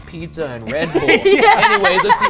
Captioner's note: laughing loudly